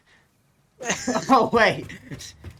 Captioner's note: laughing